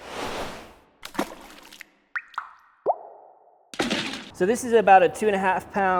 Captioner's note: splashing and dripping